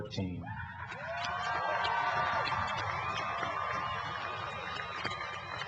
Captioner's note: cheering and applause